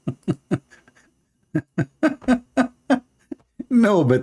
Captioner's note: Ketawa